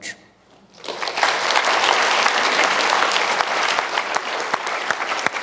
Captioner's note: applause